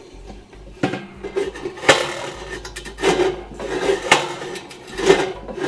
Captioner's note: metal rattling